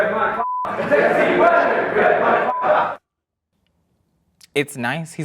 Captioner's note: beep; beep